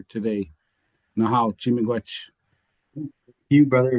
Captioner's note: speaking foreign language